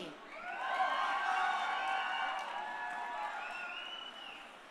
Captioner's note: crowd cheering